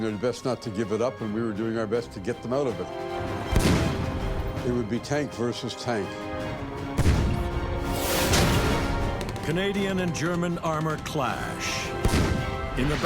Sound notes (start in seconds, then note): 6.9 shells exploding